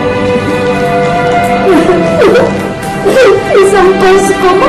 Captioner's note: cries